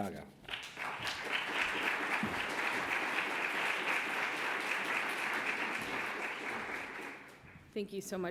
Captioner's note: applause